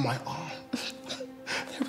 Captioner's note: laughing